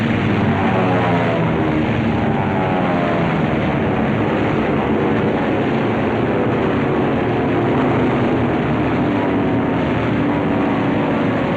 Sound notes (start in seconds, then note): 3.3 sounds of air battle, plane engines and gunfire